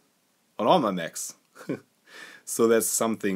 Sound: chuckles

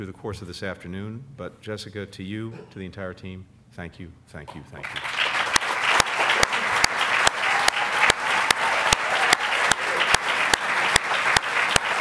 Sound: applause

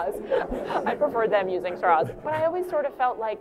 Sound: laughter

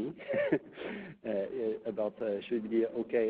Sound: chuckles

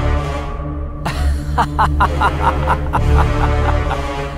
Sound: laughs

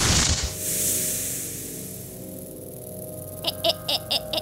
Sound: snake hissing

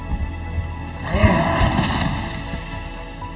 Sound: growls

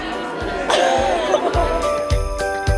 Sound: group laughs; bright music continues

